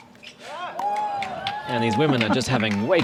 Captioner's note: applause